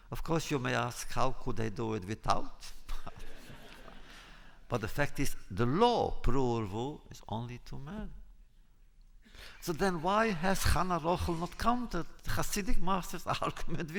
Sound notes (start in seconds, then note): 3.1 laughter